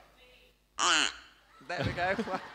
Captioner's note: duck sound